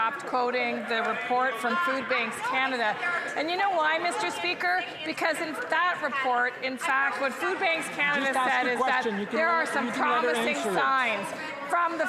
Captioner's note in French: voix de l'interprète